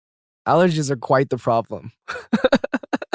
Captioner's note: chuckles